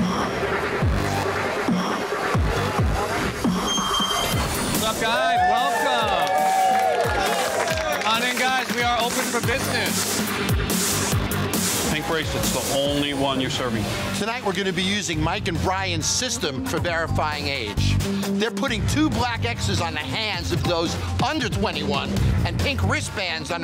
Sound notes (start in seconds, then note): 0.2 upbeat music; 6.6 crowd cheers